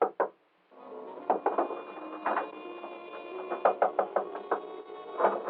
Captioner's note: Knocking; doorknob Rattling